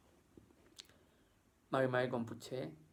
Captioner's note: mapudungun speaking